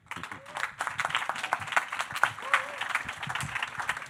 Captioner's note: audience clapping